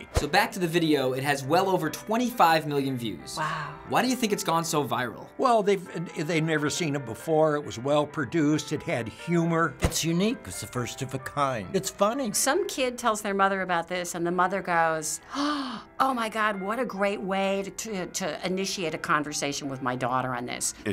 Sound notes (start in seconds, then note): 15.3 gasps